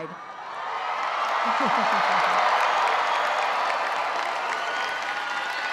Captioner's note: audience cheering and applauding